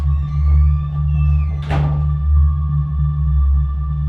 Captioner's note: door creaks